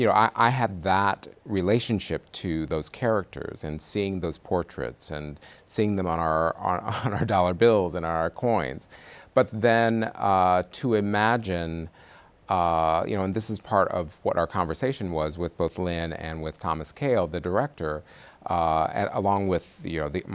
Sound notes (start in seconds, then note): 6.8 chuckles